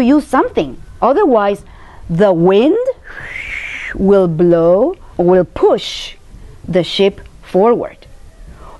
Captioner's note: makes wind noise